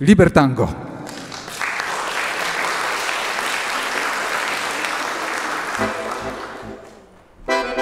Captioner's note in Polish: Aplauz